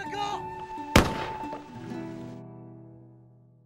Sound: flare gun shot

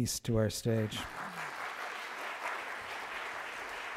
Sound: applause

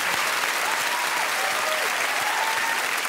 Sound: audience clapping and cheering

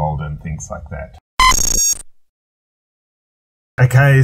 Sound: text beeps

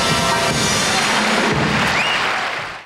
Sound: audience applauds

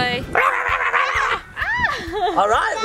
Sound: dad barking

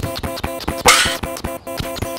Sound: crash; fast pounding footsteps

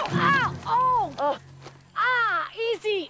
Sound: Rikki groans; Cooper screams

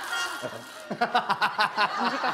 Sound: chuckling

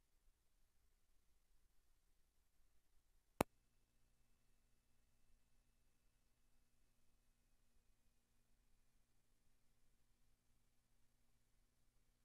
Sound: silence

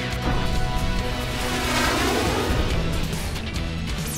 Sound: lasers shoot

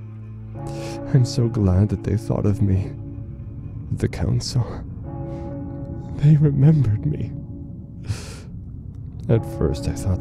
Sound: tolling bell

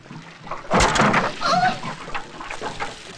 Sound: loudly thuds; water loudly splashing

